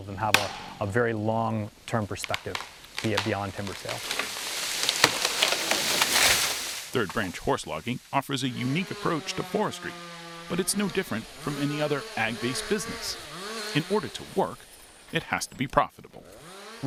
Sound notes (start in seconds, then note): 4.7 branches crackle; 4.7 leaves rustle